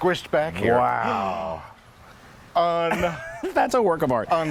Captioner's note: both exclaim